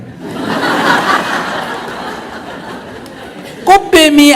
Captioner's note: audience Laughter